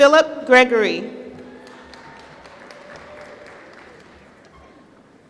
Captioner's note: applause